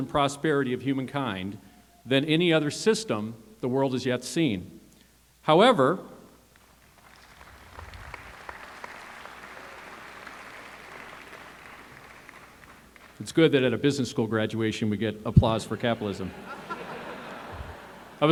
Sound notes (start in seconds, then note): 6.6 applause